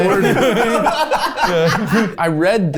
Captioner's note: group laughs